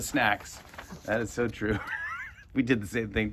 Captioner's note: laughs